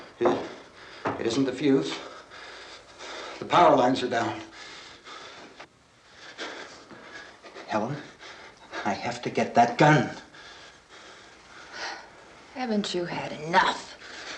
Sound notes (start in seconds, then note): 2.5 panting